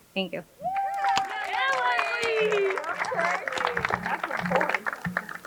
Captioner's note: crowd cheering and applauding